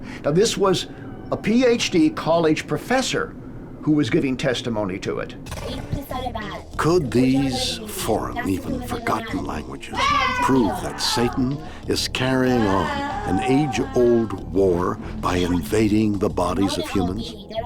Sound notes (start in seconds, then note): 5.8 speaks in foreign language